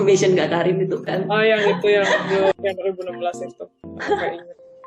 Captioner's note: A: laughs